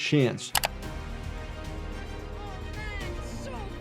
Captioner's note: screen clicking